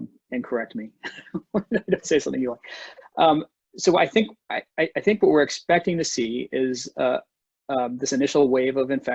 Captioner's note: laughs